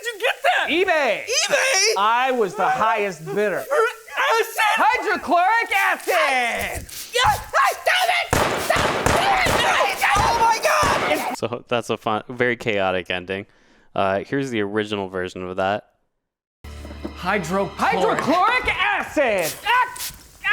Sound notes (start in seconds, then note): 7.1 screaming; 8.3 gun blasting